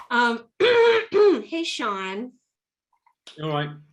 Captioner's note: clears throat like a demon